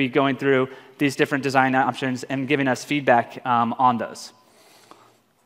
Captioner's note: feedback